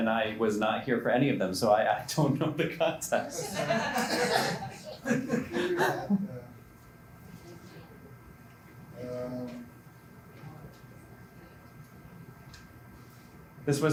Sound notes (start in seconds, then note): 3.3 laughter